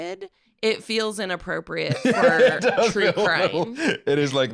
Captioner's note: laughs